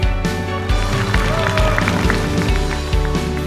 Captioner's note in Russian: аплодисменты